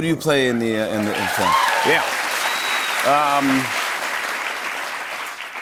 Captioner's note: cheers and applause